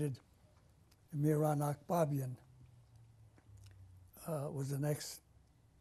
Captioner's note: pauses for 3 seconds